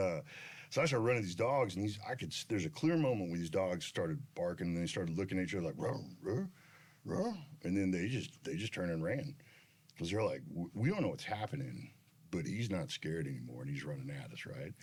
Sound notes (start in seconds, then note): 5.7 imitates dogs